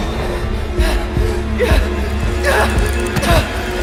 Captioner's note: panicked whimpering